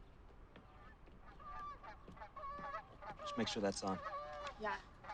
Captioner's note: birds squawking